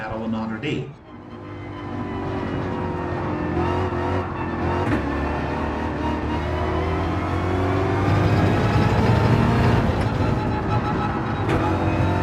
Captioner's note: engines revving, tyres grip, racing sounds